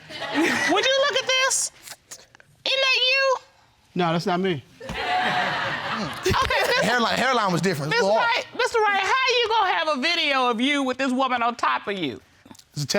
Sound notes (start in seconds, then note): 4.8 audience laughing